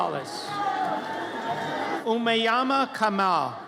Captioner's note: audience cheers